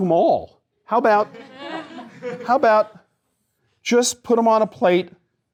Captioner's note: laughter